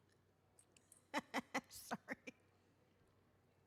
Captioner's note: laughs